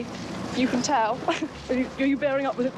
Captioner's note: laughing